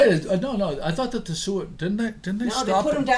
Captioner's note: voiceover